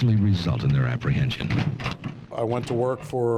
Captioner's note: crowbar rattling